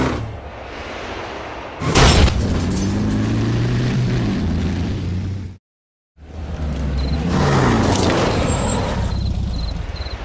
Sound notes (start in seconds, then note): 0.1 wind sound; 1.8 metallic sound; 3.0 car driving away; 6.3 vroom vroom; 6.5 insect noises; 8.5 engine stops